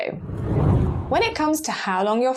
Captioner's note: whooshing air